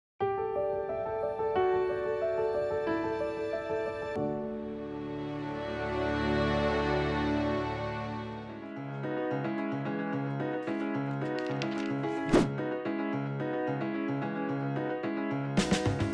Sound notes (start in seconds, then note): 0.0 calm music; 8.9 upbeat music; 12.2 air whooshes